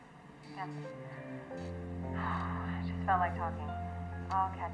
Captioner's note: sighs